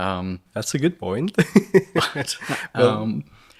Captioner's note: laughs